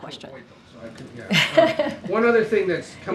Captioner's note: laughs